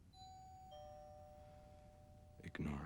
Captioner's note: doorbell rings